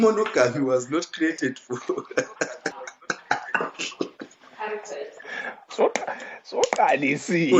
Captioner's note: laughs